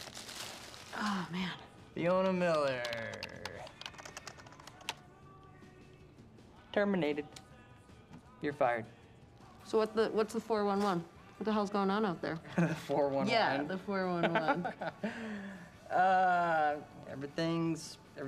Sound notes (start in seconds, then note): 14.2 laughs